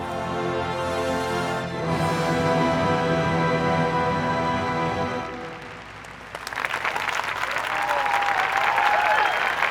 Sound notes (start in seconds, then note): 0.0 dramatic music; 5.2 audience applauding